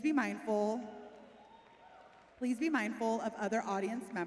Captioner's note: cheering